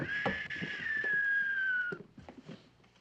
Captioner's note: ıslık çalıyor